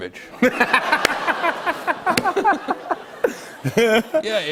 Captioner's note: laughter